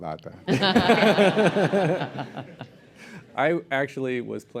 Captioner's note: laughter